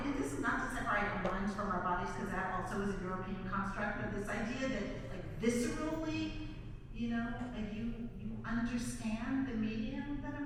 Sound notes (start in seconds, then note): none